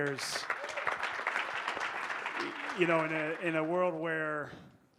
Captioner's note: audience applauding